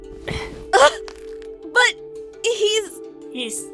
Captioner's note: frustrated groan